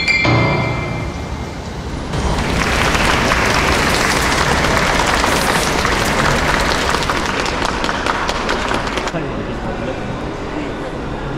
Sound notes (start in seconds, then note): 5.2 applause for the ear-copied performance lol